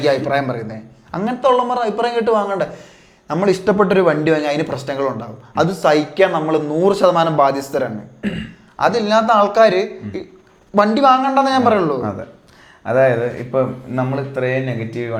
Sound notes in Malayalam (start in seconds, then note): 8.2 തൊണ്ട ശരിയാക്കുന്നു